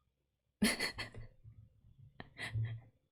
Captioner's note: laughs